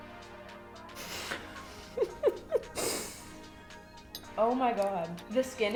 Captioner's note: upbeat music; muffled laughs